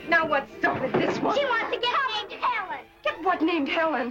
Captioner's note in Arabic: تتمتم